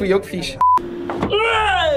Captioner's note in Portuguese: som de bipe